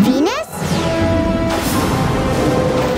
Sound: thundering

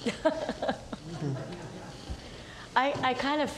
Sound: laughing

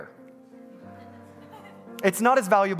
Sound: congregants laughing

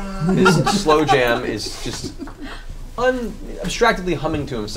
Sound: laughs

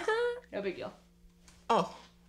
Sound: laughs

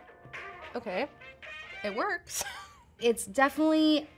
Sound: chuckles

